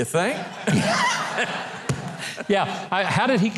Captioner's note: laughter